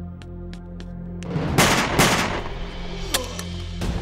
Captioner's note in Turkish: si̇lah sesleri̇